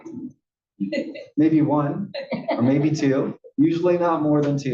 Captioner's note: laugh